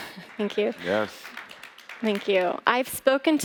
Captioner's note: applause